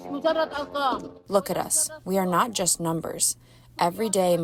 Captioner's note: through translator